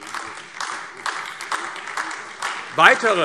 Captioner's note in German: Beifall AfD